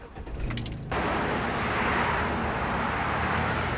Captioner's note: engine revs